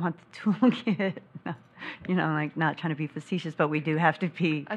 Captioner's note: laughs